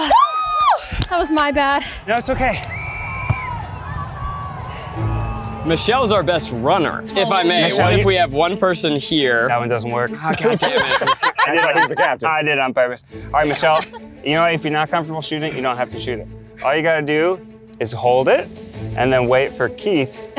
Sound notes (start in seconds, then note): 2.6 whistle blows; 10.1 laughter